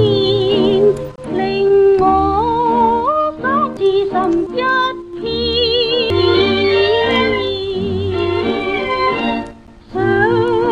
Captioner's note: the gramophone record is skipping